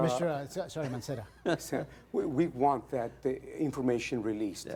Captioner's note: laughter